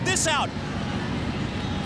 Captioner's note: crowd cheering